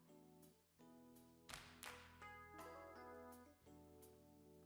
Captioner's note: clap